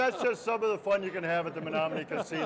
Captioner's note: laughing